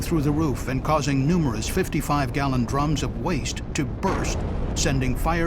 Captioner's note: sound of explosion